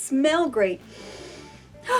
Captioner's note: sniffs; sighs